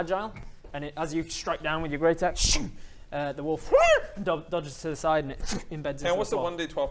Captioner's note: yelp